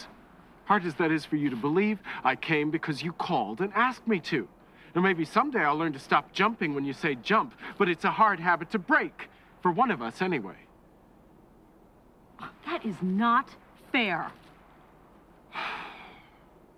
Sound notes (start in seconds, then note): 15.5 sighs